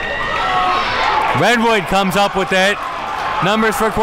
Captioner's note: crowd cheers